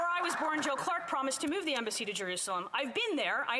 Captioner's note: some Applause